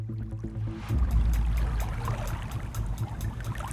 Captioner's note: water trickling